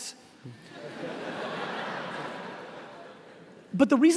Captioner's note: laughing